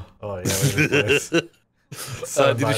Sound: laughing

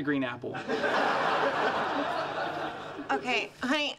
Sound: audience laughing

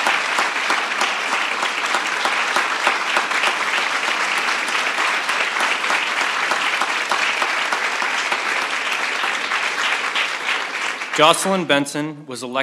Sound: applause

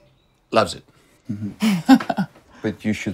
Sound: laughs

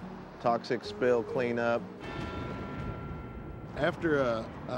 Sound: bell tolls

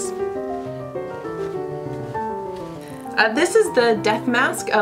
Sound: rustling

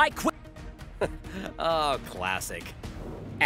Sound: chuckles

